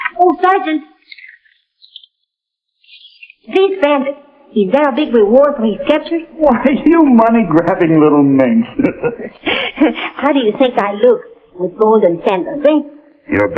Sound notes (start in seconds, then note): 7.7 laughing